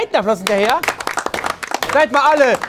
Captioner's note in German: Klatschen